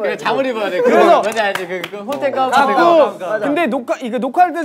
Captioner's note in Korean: 공감의 박수